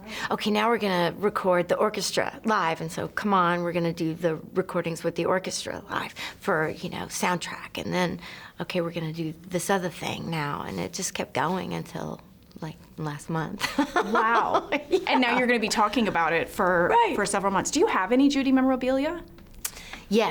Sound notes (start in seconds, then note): 13.6 laughs